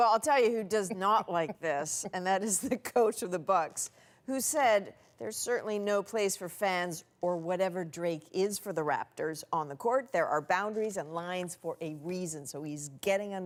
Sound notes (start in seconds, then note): 2.9 laughter